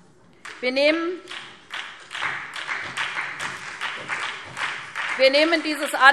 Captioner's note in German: Beifall SPD